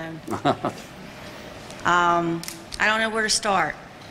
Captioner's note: laughter